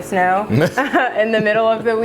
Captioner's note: laughing